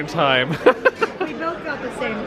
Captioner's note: laughing